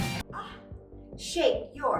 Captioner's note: gasps